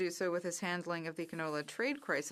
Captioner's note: speaking French